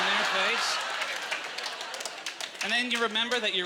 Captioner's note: audience laughter